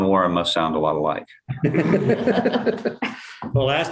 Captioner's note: laughter